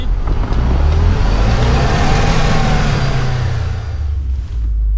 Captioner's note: car engine roaring